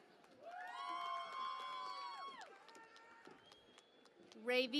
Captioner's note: cheering and Applause